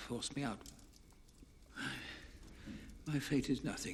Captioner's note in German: Morell seufzt